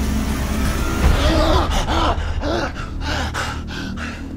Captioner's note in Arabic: نيك يلهث